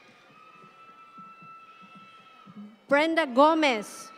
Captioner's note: audience cheer